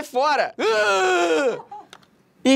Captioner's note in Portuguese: uuuuuurgh